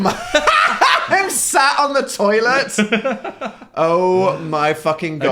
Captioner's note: cackles